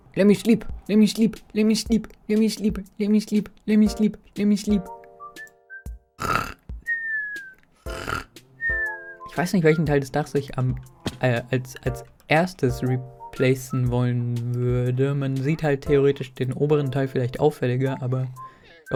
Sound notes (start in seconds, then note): 6.2 snoring